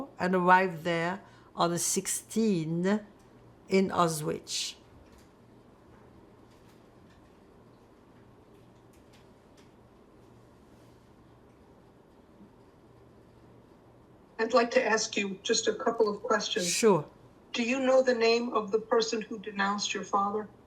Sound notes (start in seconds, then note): 4.8 pauses 10 seconds